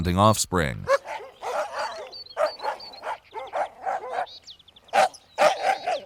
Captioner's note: dogs barking